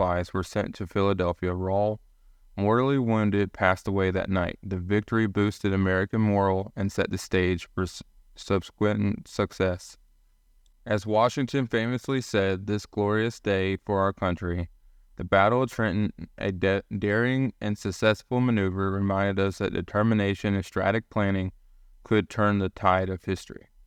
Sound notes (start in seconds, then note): 0.0 voiceover; 11.1 voiceover